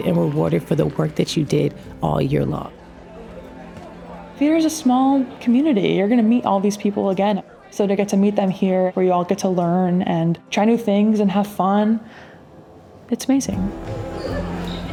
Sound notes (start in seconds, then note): 2.8 people chattering